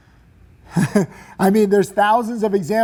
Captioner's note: chuckling